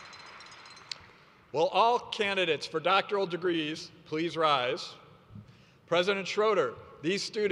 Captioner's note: applause